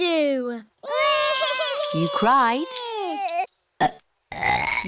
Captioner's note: both bawling; both burping